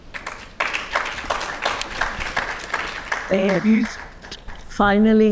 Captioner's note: audience applauding